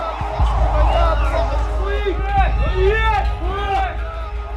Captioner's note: Arabic spoken audio